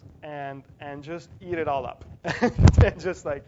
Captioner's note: laugh